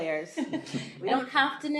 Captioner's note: laughter